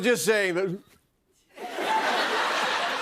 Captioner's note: no audio; laughter